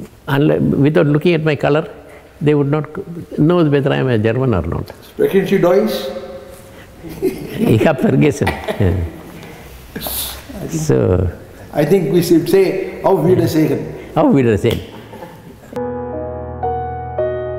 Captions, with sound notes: without looking at my color they would not known whether I am a German or not. [Speaks German] drawings? [Speaks German] I think we should say how the video was taken. How video shake?